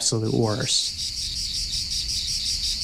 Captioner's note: insects chirring